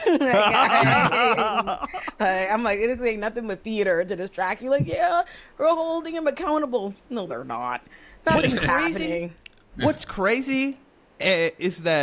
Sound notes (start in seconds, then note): 2.0 laughs